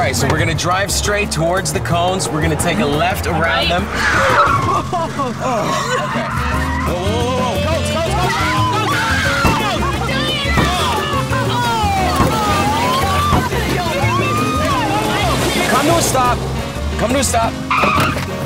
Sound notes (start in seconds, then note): 7.0 lots of screams